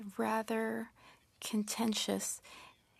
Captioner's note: speaking French